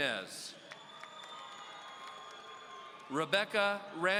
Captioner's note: audience cheering